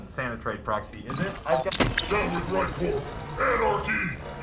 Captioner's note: violent mechanical failure